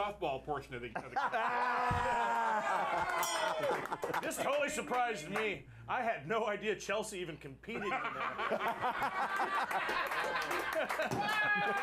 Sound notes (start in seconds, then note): 3.2 bell rings; 4.9 laughter